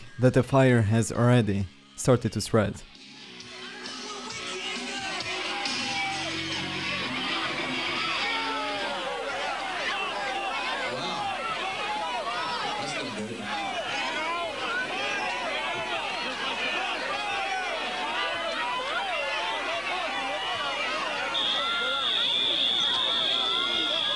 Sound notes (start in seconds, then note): 7.5 audience shouting; 15.3 audience clamoring; 21.2 alarm blaring